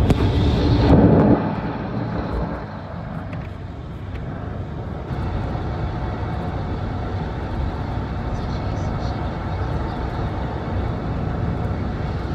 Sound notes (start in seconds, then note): none